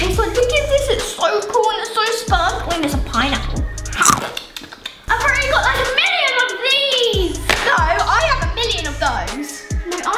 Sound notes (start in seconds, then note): 3.9 chomping